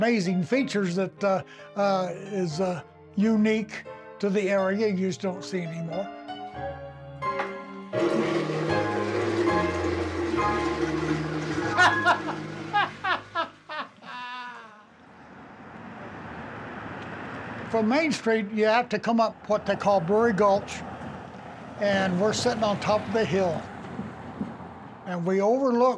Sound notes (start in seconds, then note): 7.9 toilet flushing; 11.6 hearty laugh!